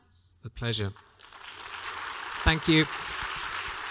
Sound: applause

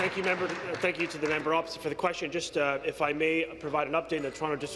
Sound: applause

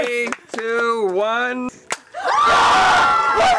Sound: yelling

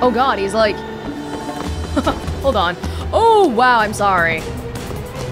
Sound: chuckles

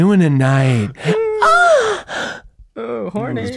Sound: moans

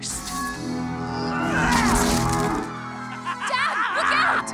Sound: Carmilla grunts

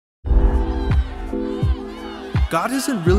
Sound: loud crowd noise

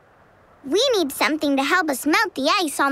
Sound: none

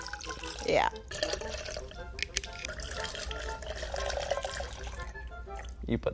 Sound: liquid trickling; quirky orchestral music; liquid trickling

